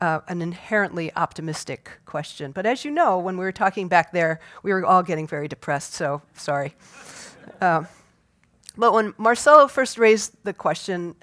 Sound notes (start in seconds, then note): 7.0 laugh